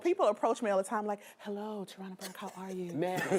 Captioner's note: all laughing; group laughing